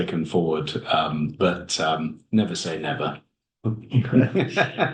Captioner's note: laughs